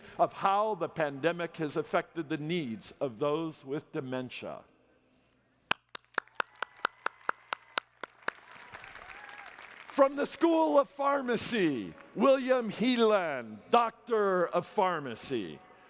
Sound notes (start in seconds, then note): 5.7 applause